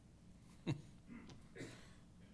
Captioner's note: chuckles